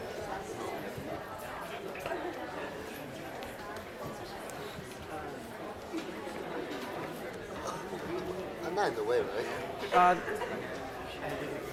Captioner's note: audience chattering